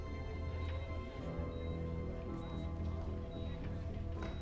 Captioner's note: monitor beeping